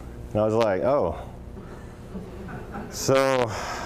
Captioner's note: laughter